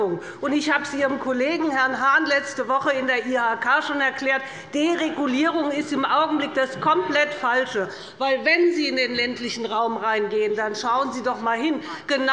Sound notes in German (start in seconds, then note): none